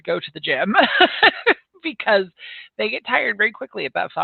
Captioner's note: laughs